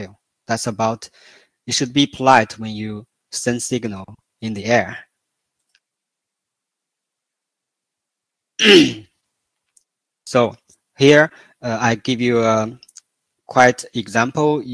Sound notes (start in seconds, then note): 5.3 蜜汁沉默